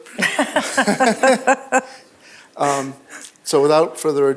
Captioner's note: laughter